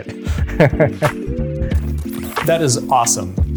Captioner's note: speaker chuckling